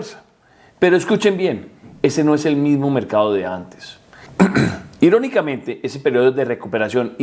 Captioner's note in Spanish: carraspeo